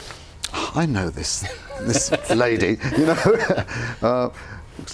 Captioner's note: laughs